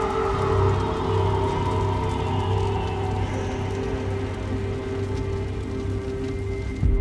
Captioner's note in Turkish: Ateş çıtırtı sesleri; Müzik - Gerilim